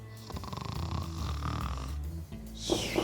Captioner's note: Oswald snoring; knocking